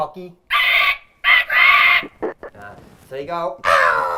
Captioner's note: imitates birds screeching; imitates birds calling